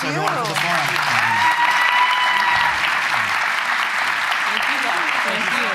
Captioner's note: applause